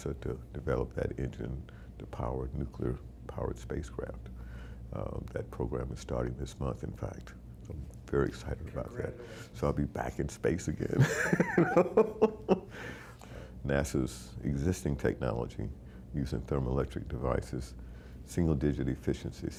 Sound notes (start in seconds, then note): 11.0 laughing